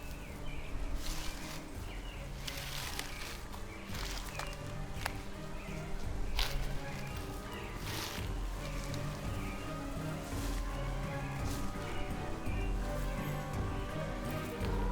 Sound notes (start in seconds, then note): 1.3 bushes rustle; 3.2 suspenseful music; 11.0 suspenseful music continues